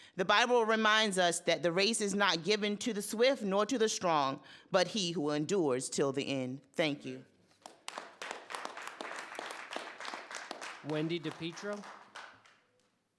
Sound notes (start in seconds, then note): 7.6 audience applauding